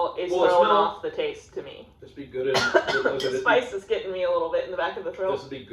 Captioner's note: cough